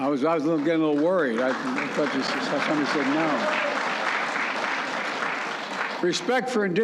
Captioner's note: applause